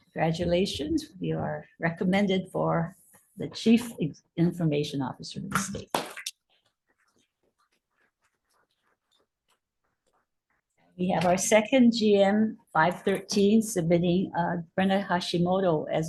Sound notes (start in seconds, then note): 5.8 everybody clapping